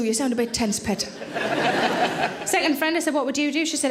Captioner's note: audience laughing